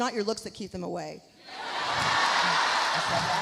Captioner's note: audience laughs